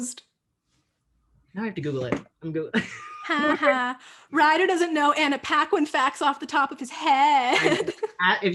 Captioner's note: mocking